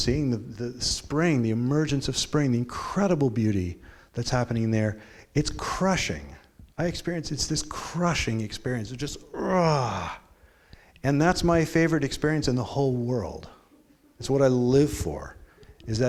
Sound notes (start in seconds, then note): 9.2 grunting